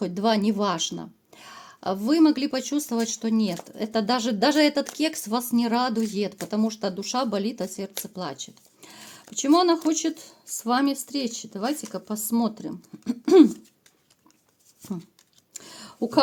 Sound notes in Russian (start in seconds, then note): 13.0 откашливается